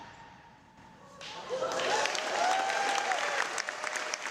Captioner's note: applause